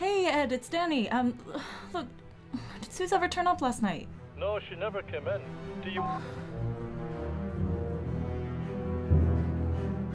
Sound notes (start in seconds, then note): 7.9 beep